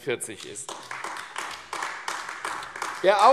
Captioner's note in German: Beifall AfD